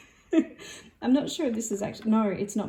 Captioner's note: laughs